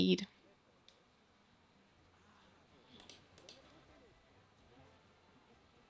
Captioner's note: silence